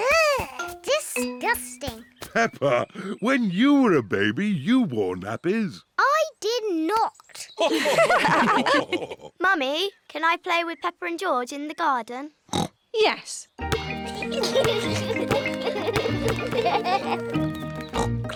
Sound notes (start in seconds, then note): 7.6 others laugh; 12.5 oinks; 13.8 youngsters giggle